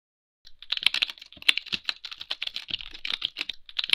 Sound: typing

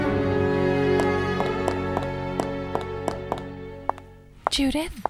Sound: pacing footsteps

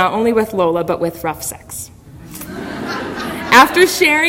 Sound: audience laughter

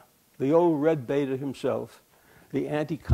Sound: none

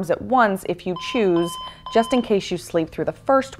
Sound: alarm beeps

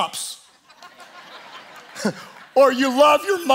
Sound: congregation applauding

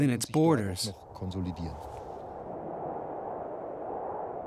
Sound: wind whistling

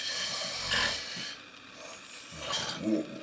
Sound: snores

